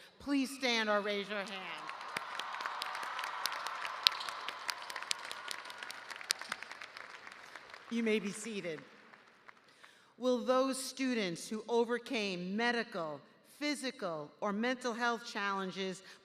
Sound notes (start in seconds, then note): 4.1 cheers and applause